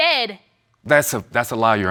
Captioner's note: none